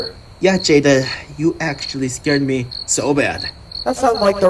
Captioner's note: serious voice